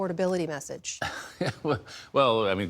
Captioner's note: laughter